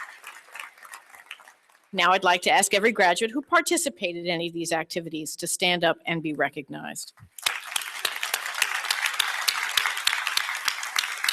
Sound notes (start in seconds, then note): 7.3 applause